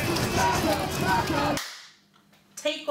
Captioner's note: clap